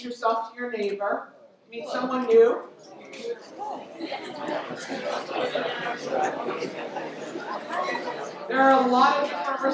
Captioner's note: audience chatter